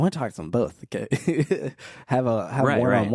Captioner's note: laughs